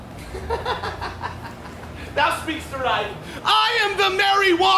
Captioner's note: laughs